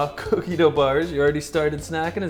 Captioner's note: laughs